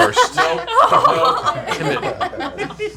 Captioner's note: laughter